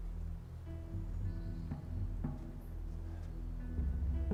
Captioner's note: birds chirping